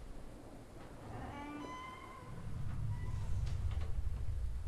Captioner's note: door creaking